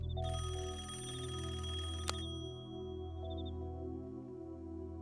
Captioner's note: rings